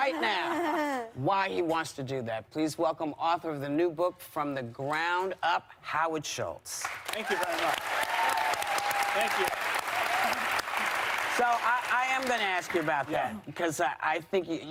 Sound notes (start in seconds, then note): 10.2 applause